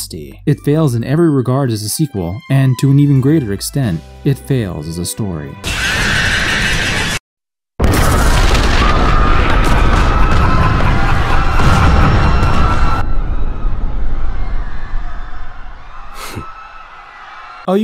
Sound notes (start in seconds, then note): 5.6 explosion; 5.6 screaming; 7.8 explosion; 7.8 screaming; 9.4 Jetstream Sam laughing; 9.4 explosions; 9.4 screaming; 12.9 far away explosions and screaming